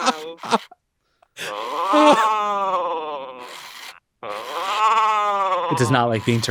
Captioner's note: Coco babbling; machinery whirring